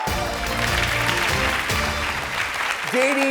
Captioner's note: audience clapping